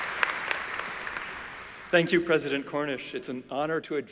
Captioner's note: applause